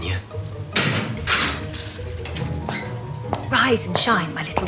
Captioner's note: Greenhouse door opens, footsteps approach